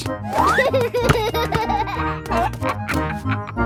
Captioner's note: giggles